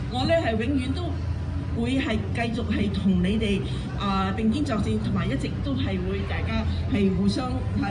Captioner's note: speaking foreign language